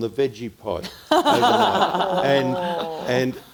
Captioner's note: everyone laughing